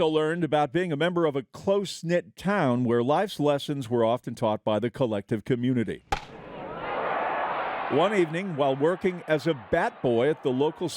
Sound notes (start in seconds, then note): 6.1 bat smacks ball; 6.2 crowd cheering